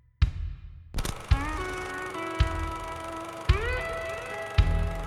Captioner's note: film reel clacking